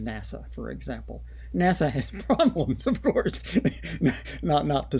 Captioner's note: laughter